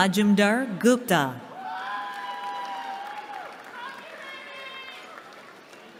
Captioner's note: cheering